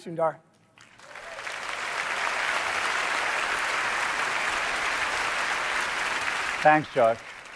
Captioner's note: applause